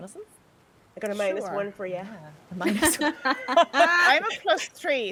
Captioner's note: people laughing